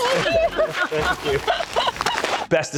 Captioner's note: laughs